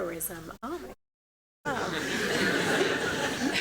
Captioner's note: laughter